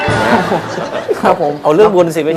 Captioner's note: laughing